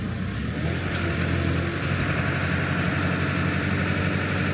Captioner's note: vehicle revving